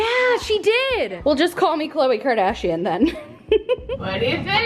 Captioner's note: laughs